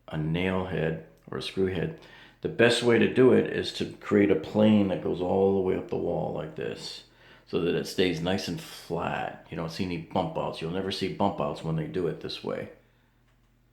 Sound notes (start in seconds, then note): none